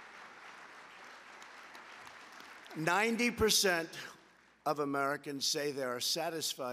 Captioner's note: applause